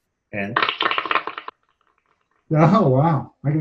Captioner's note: applause